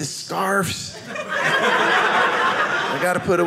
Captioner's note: audience laughing